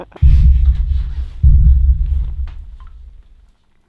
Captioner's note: laughing; ominous booming